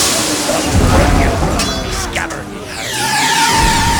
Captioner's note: pirates growling; swords clashing; tires screeching; explosion!